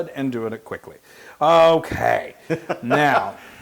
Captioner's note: laugh